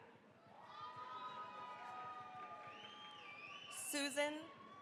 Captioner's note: cheering, applause